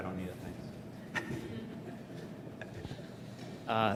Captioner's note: laugh